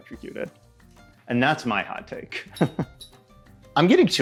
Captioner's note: laughs